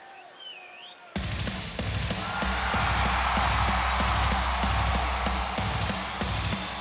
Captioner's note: audience cheering; upbeat music